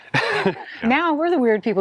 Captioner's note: laughs